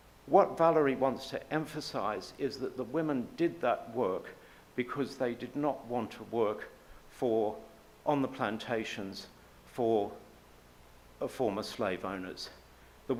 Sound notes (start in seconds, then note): none